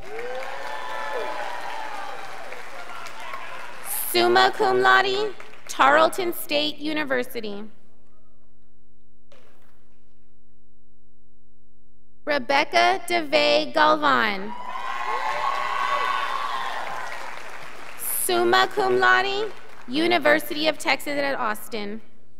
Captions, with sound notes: (scholars applauding) summa cum laude, Tarleton state university. Rebecca Devae Galvan, (scholars applauding) summa cum laude, University of Texas at Austin.